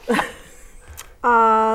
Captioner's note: laughing